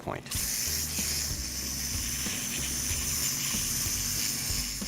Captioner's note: whirling